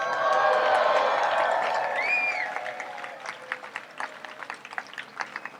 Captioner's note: audience applauds and cheers